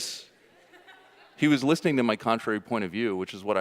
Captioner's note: audience laughing